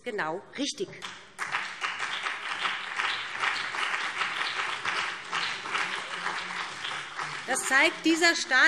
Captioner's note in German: Beifall BÜNDNIS 90/DIE GRÜNEN und CDU